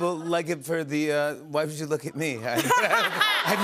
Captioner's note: laughter